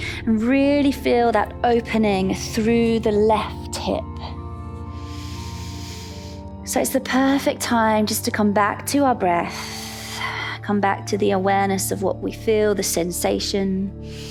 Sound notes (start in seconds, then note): 4.6 inhales; 5.2 calm music